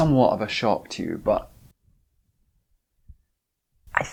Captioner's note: whispers